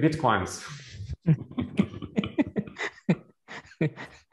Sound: laughter

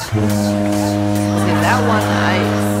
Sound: foghorn

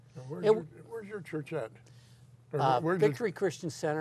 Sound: voiceover

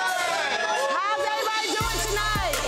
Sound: cheering

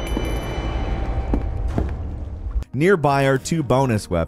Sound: heavy footsteps

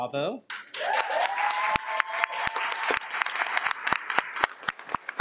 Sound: audience clapping

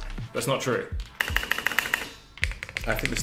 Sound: keys clicking

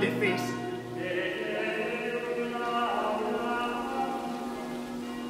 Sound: bells chiming

